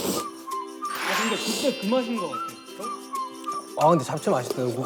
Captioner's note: is slurping noodles because they taste so good